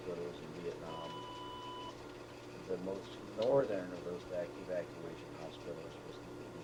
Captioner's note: beeping